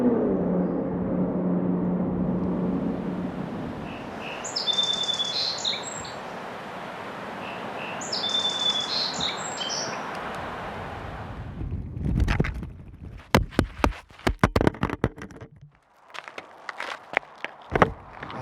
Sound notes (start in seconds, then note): 0.0 distant racing car; 3.7 birds; 12.2 audio recorder bouncing on the road